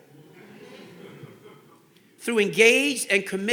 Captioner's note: audience laughing